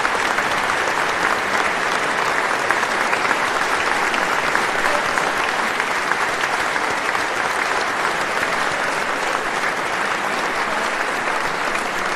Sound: applause

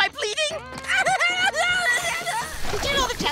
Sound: screaming

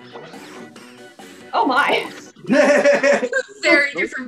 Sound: laughs

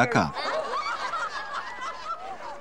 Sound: laughter

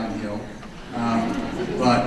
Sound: audience laughs

